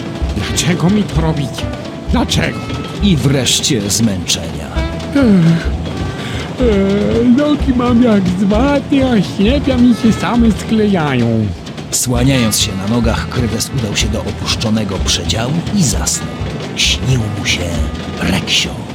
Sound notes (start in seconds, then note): 5.2 yawning